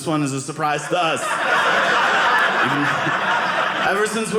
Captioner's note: audience laughing